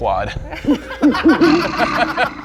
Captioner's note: laughter